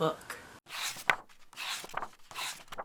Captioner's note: pages turning